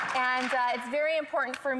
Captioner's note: applause